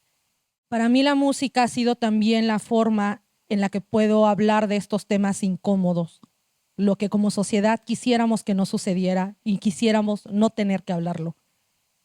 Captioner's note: speaking Zapotec language